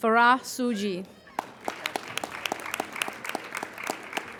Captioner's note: applauding